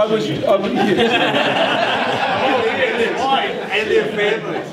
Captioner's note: laughing